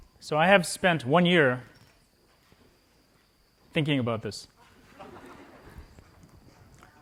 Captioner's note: laughter